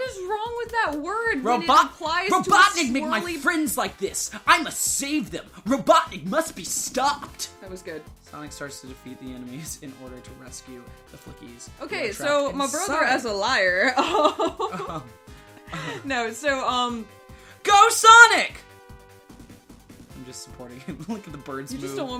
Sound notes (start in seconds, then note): 13.8 laughing